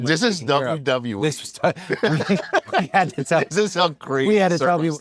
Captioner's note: laugh